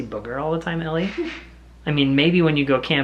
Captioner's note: chuckling